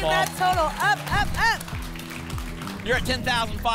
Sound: applause and cheering

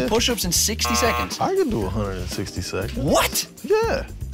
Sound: buzzing

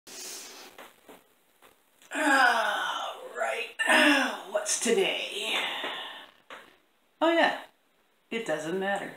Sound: yawn

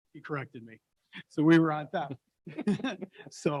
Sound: laughs

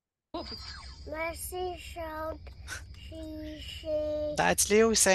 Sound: speaking French

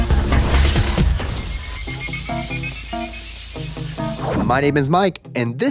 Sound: electricity crackling

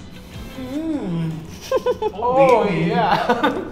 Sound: chuckles

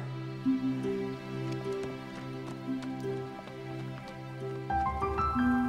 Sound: soft uplifting music; hooves clomping

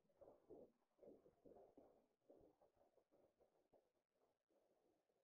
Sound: fire crackling faintly

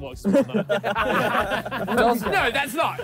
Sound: all laughing

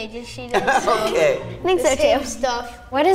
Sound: laughing

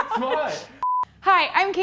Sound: beep

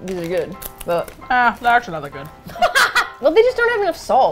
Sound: laughs

